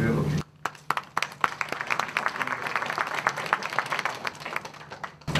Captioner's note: applause